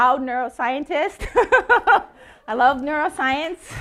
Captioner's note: laughing